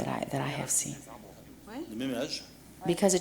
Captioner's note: speaking french